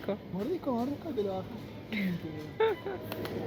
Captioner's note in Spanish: risas